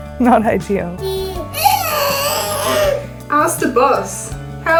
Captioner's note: baby cooing; laughing